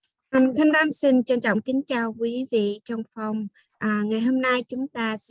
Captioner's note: speaking in Vietnamese